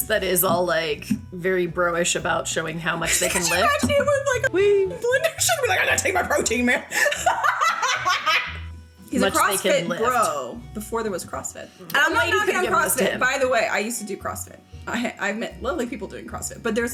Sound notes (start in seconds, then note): 3.1 laughing; 6.8 laughs loudly